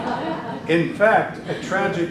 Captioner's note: group laughs